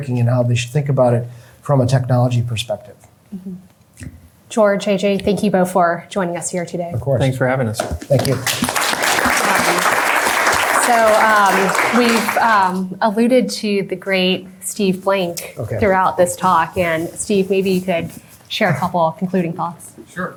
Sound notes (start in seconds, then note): 8.1 applause